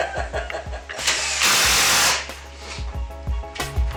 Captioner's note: laughing; drill whirring; instrumental music